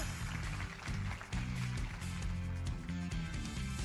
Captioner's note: applause